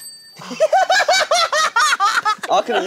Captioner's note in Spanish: Jajaja